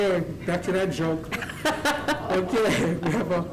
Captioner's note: laughter